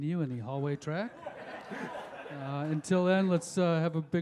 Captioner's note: audience laughs